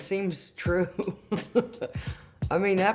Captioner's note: chuckles